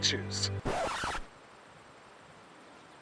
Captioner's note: record scratch, music stops abrutly